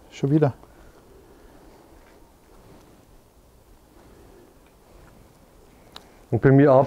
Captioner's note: silence in the background